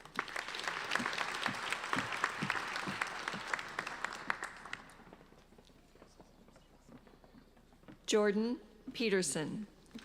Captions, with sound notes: (applauding) Jordan Petersen.